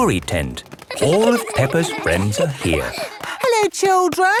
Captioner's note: excited babbling